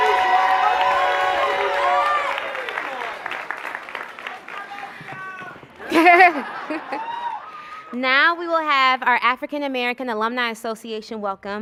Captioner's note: cheers and applause